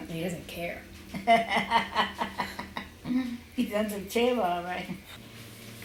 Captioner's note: laughs